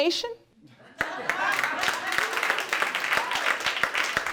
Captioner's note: audience applauding